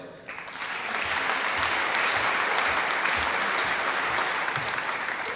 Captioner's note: applause